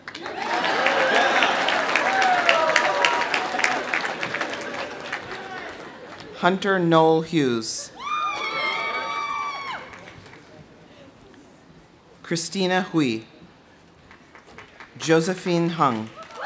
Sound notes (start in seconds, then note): 0.0 audience cheering; 0.0 audience applauding; 7.9 audience cheering; 8.2 audience applauding; 14.0 audience applauding